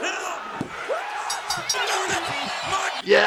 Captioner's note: bell dinging; crowd cheering